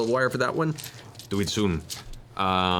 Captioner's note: funny accent